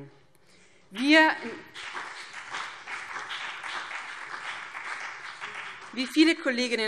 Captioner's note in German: Beifall BÜNDNIS 90/DIE GRÜNEN